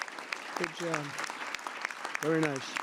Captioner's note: applause